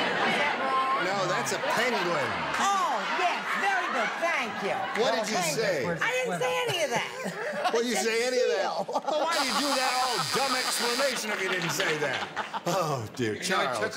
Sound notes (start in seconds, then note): 9.3 buzzer sounds